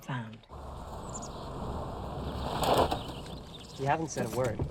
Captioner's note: car engine revving